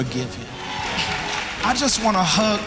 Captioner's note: applause